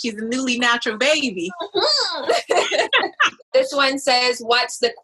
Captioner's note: laughs